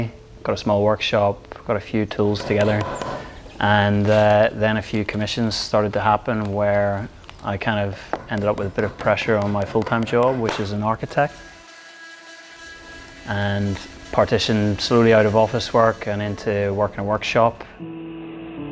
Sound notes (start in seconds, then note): 11.8 drilling